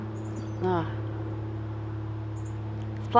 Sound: plane flying overhead

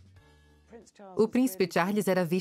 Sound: voiceover

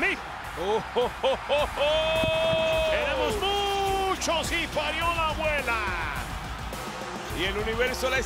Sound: laugh

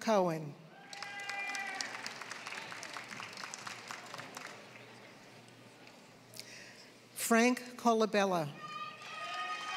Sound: applause; applause

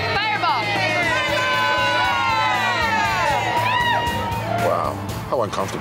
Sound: crowd cheering

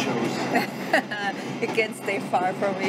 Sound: laughs

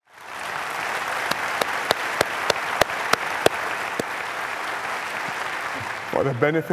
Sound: applause

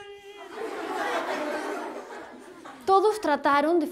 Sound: kids laugh

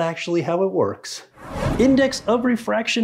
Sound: whooshing

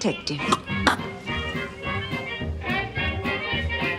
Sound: chokes

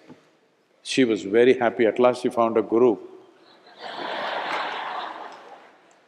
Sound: laughter

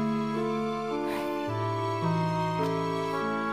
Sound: sighs

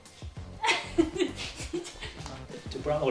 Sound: haha

